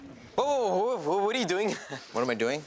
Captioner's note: audience laughs; chuckles